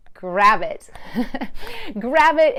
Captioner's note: laughs lightly